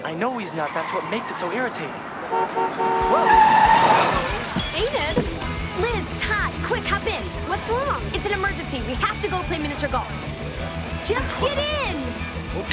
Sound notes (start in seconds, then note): 2.2 car horn honking; 3.3 brakes screeching